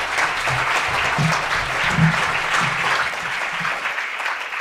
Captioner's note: applause